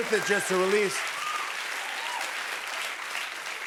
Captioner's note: cheers and applause